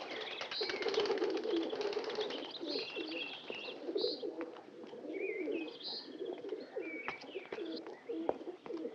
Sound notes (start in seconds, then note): 4.9 cooing